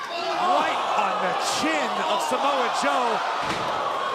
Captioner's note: crowd cheering